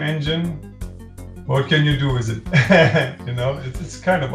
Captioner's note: laughter